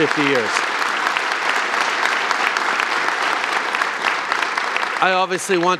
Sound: applause

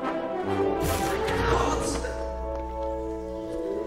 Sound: yells

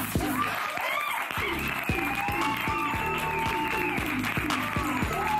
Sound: audience cheers

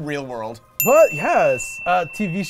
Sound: dinging

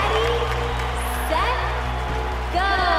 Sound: kids cheering

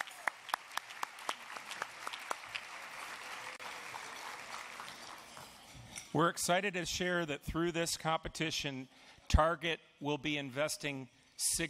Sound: applause

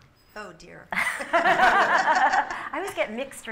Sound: laughter

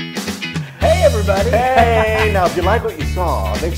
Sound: laugh

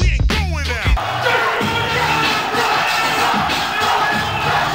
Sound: crowd cheering

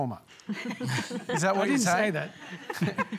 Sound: laughter

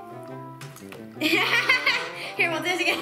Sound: laughs

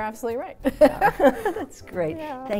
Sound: both laughs

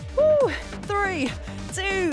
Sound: exclaiming

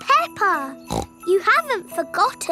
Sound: snorts

